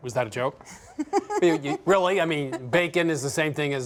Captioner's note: laughing